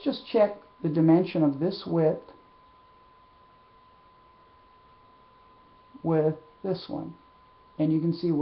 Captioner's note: silence